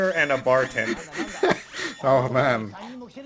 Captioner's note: laughs